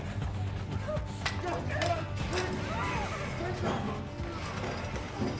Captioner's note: shouting